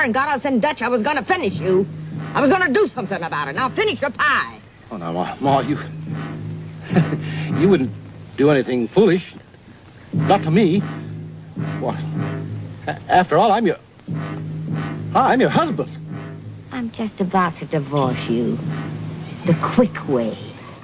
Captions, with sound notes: and got us in Dutch, I was gonna finish you. I was gonna do something about it. Now finish your pie. - Oh, now, Ma. (chuckling) You wouldn't do anything foolish, not to me. After all, I'm your... I'm your husband. - I'm just about to divorce you. The quick way.